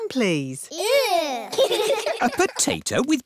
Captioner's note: giggling